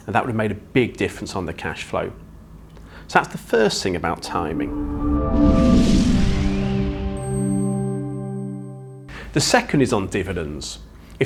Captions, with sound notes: and that would have made a big difference on the cashflow. So that's the first thing about timing. (graphics whooshing) (gentle music) The second is on dividends.